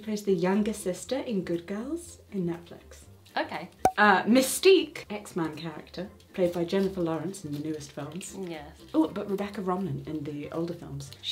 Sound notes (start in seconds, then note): 3.8 cork popping